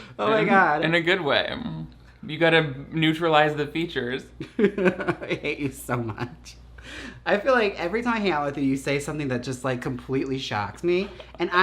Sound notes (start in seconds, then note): 4.4 laughs